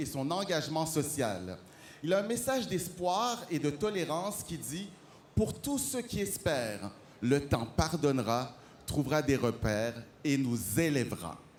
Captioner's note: speaking French